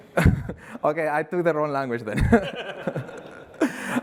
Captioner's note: laughter